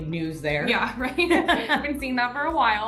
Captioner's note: laugh